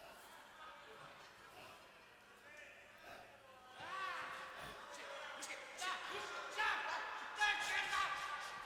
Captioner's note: background bedlam of the insane asylum